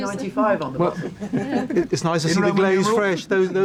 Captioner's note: group laughs